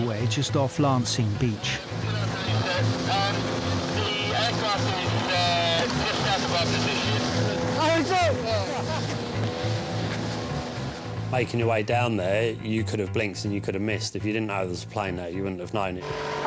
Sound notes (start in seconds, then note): 9.9 motor whirring; 9.9 tense music